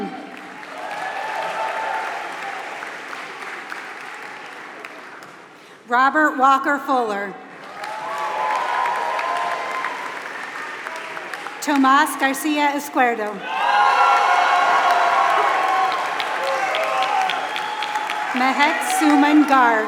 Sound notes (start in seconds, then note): 0.0 applause; 7.6 applause